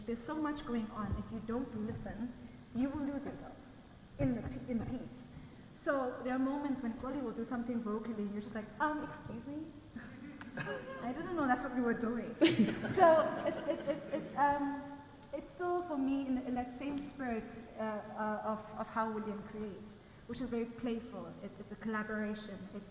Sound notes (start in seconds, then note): 12.4 people laugh